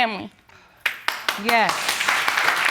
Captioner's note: audience applauding